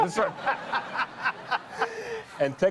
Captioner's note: laughter